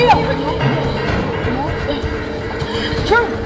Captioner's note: indistinct panicked chatter